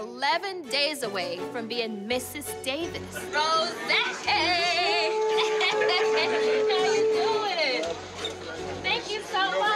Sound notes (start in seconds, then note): 4.4 laughing